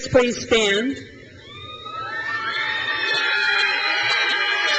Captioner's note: crowd cheers